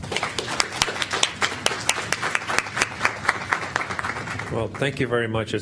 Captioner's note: applause